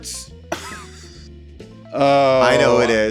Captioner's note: lively music; laughs